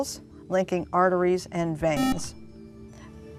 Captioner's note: buzzer